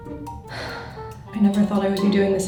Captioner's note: sighs